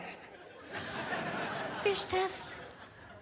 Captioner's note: audience laughs